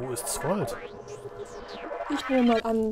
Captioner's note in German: Enderman Geburt Geräusche